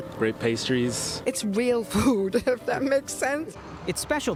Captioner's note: laughing